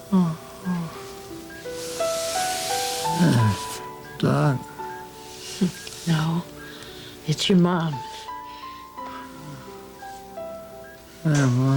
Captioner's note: moanin